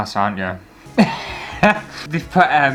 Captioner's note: laughter